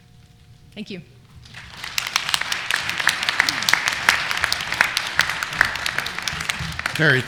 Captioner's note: applause